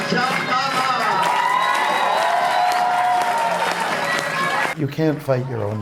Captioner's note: audience cheering